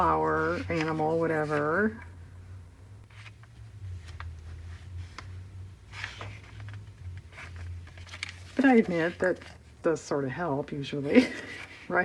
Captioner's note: laughs